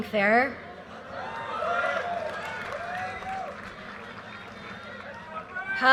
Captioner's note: audience cheers and applause